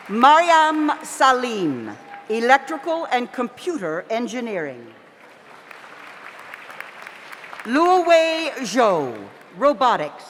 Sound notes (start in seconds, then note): 5.2 audience applauds